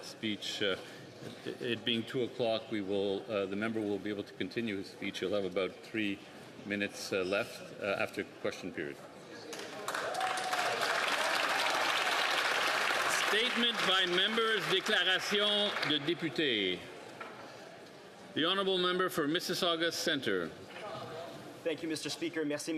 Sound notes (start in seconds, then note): 14.6 some Applause